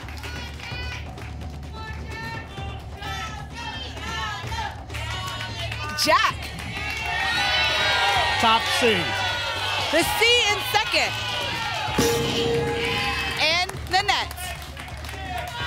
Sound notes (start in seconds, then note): 3.3 cheering; 6.9 audience shouting letters; 12.0 ping